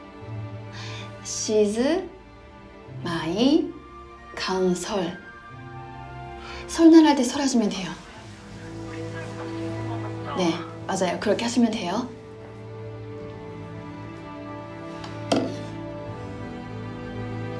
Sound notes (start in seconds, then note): 15.3 phone receiver hits the desk